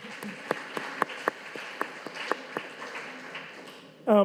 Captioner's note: audience applauding